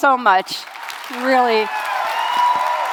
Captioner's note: cheering and applause